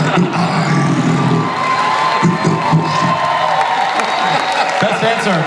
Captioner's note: audience cheers